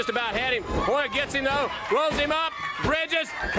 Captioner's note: crowd cheering